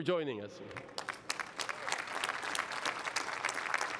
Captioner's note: cheering and applause